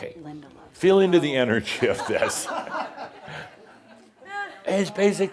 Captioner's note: more chuckles